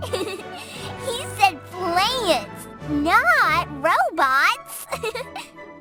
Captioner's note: laughs